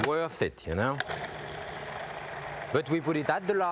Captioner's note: blender whirring